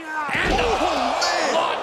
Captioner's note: Johnny grunting